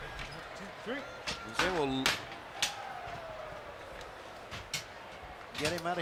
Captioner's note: applause